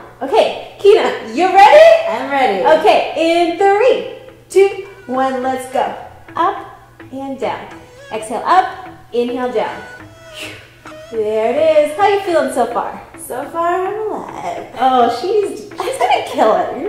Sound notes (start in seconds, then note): 10.1 breaths out; 15.5 laughs